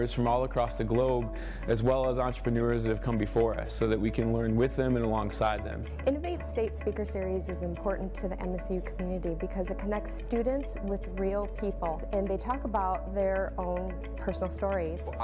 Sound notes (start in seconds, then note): none